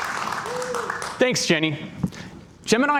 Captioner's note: cheers and Applause